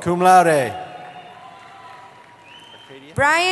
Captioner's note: cheering